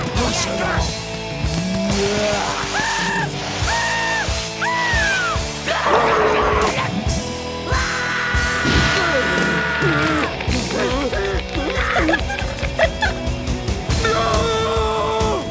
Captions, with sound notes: (Spongebob screaming) (Spongebob yelling) (Patrick grunting) (Patrick yelling) - My name's not Rick!